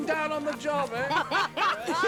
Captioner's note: both laughing